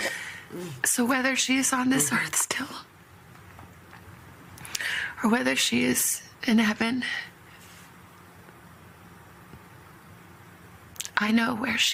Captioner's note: snorts